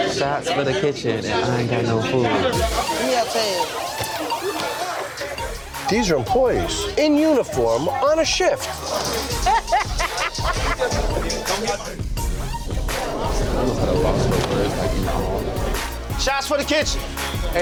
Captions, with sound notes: Shots for the kitchen and I ain't got no food. (upbeat hip hop music) - These are employees in uniform, on a shift! (woman laughing) - I'm almost at a loss for words, like, in awe. - Shots for the kitchen!